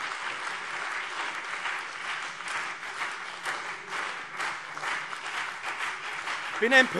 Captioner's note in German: Anhaltender Beifall BÜNDNIS 90/DIE GRÜNEN und CDU